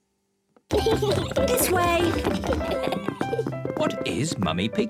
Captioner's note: kids giggling